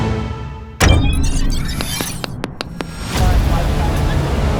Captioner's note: suspenseful dramatic music; fireworks crackling; device whirring; crowd chattering; suspenseful dramatic music